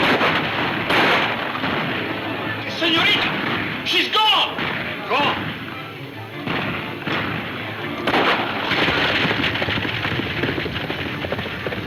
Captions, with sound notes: - The senorita, she's gone! - Gone? (gunfire pops)